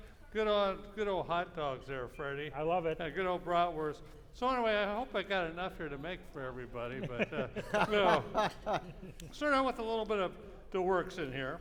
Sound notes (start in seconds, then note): 6.9 laughing